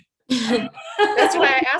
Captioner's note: laughing